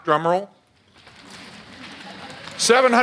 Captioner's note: audience laughs